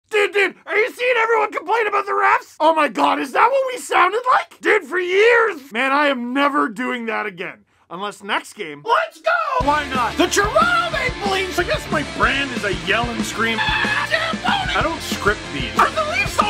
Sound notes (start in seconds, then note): 9.6 rock music plays throughout intro; 13.6 screams